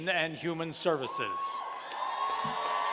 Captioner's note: cheers and applause